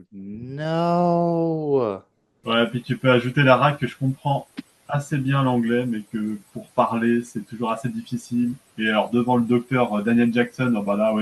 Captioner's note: translating from French